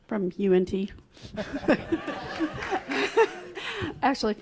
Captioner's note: laughs